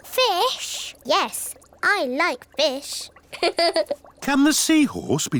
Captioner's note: laughs